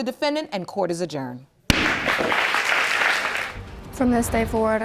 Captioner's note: audience applauding